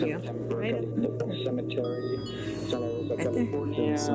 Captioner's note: recording playback